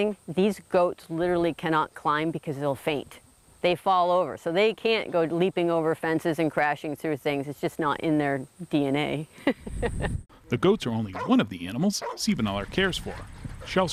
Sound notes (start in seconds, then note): 9.3 chuckles